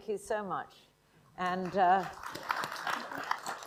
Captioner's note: applause